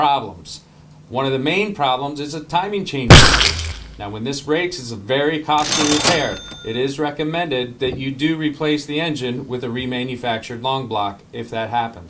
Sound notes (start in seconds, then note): 3.1 block shatters; 5.6 bell rings